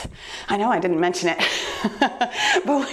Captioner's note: laughing